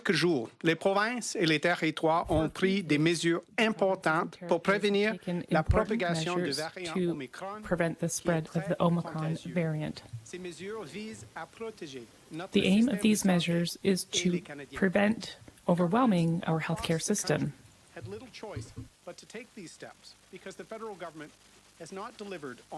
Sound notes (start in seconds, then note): 5.3 speaking French